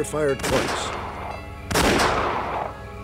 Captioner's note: gunshots